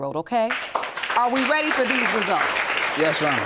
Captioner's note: audience applauding